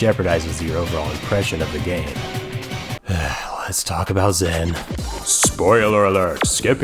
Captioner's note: sigh